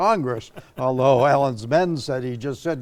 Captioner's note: laughing